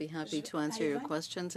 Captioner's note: speaking French